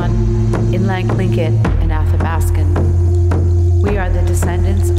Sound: foreign speaking

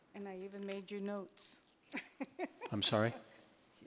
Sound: laughs

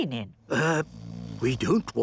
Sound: people snoring

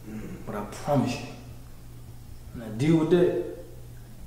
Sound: none

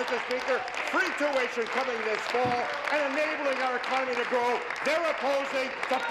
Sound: applause

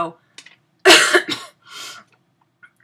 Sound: coughs

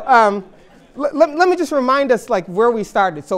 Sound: laughter

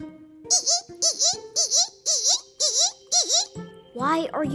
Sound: girl squeaks

